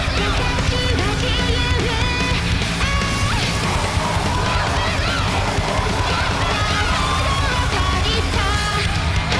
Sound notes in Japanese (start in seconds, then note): 3.5 稲子:デスボイス